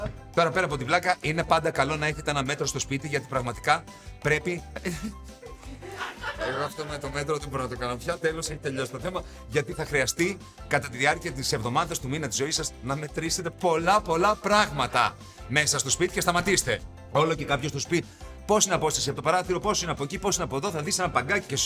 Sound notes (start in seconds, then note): 5.6 laughs